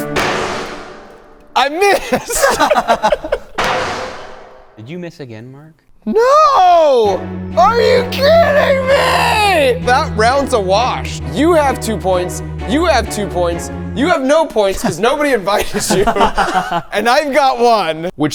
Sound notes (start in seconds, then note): 0.0 hammer thudding; 1.6 friends laughing; 3.4 anvil thudding